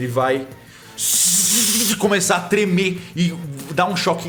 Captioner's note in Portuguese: Shhhhh